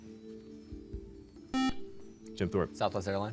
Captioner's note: beep